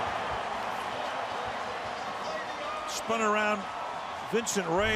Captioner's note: crowd cheering